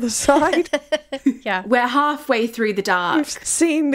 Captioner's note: laughing